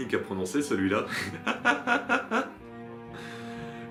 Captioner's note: laughs